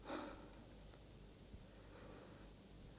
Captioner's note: sigh